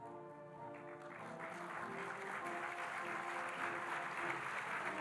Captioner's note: audience applauding